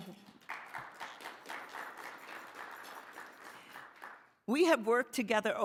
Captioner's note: audience applauding